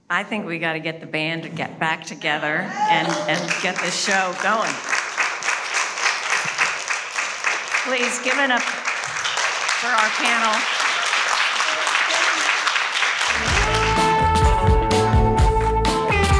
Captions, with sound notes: - I think we gotta get the band to get back together and get this show going. (audience applauding) please give it up to our panel. (audience applauding) (upbeat music)